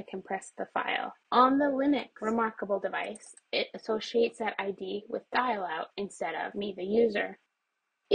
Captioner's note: mouse clicks